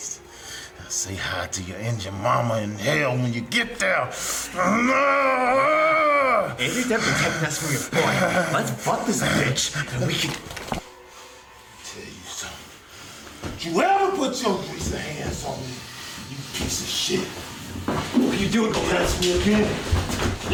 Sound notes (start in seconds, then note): 6.0 choking; 10.2 gun pulled from holster